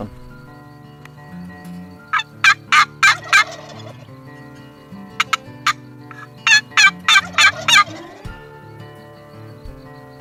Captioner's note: turkey gobbles